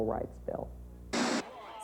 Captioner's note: static noise